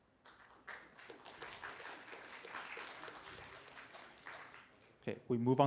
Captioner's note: applause